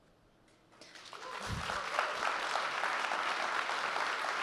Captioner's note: audience clapping